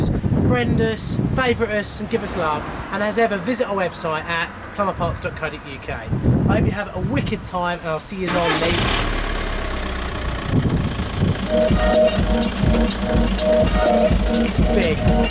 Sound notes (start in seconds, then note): 8.7 vehicle engine rumbles; 11.4 upbeat music plays on radio